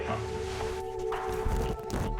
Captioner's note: sniffing